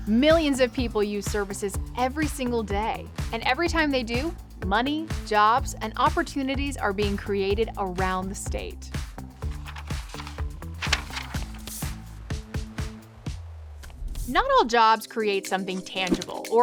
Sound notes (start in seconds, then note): 9.3 paper rustling; 10.1 upbeat music